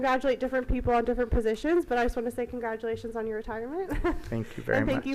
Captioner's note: giggles